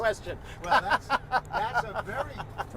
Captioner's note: laughter